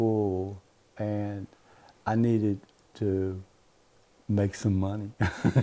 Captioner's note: laugher